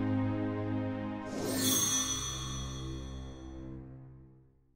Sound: chime

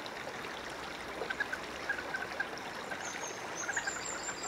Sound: moorhen alarms

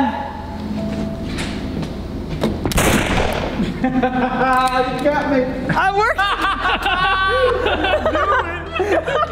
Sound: gun shot

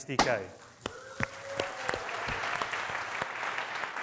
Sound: audience applauding

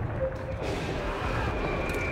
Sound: blast

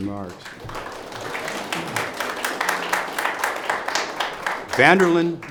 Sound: audience applause

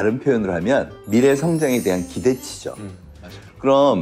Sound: sparkling sound effect

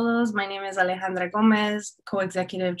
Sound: speaking in foreign language

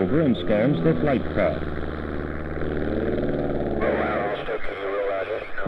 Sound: plane engine and radio transmission

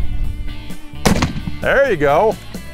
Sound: gunshot

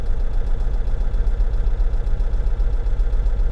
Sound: engine

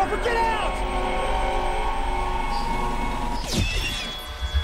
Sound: sirens

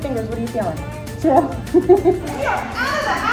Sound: laughing

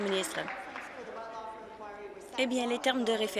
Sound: applause

